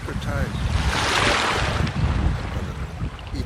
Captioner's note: loud Splashing